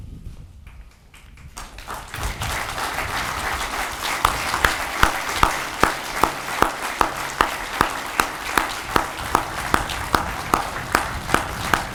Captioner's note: audience applauds